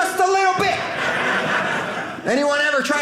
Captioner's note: audience laughing